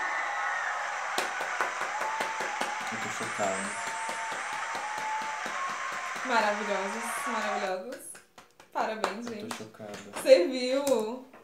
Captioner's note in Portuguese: aclamação